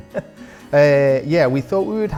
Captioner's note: laughing